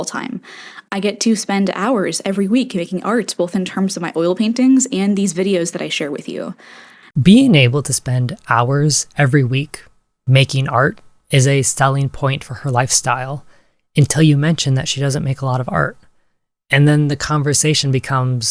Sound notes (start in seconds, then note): 0.4 inhale; 6.6 inhale